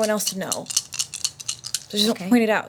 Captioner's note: dice rolling